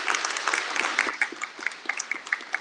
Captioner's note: applause